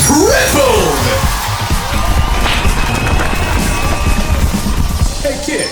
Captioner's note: crowd goes bonkers